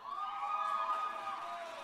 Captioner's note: cheers and applause